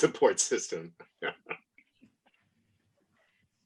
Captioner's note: laughs